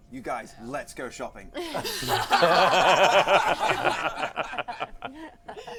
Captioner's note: laughter